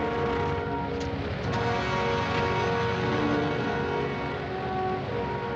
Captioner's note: plane engine starting